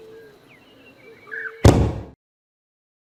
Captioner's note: thud sound